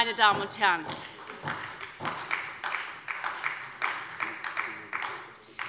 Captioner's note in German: Beifall bei der SPD